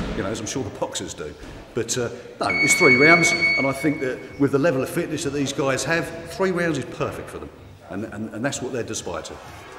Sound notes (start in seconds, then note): 2.4 chiming